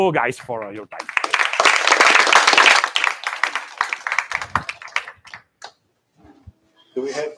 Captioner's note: applause